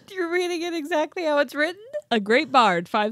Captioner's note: none